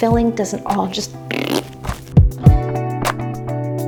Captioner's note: blows raspberry